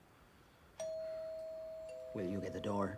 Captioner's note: doorbell rings